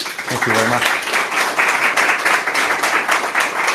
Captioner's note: applause